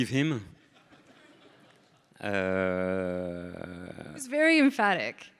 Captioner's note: audience laughing